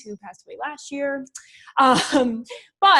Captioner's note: laughs